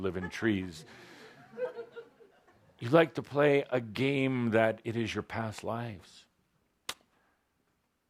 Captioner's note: some laughter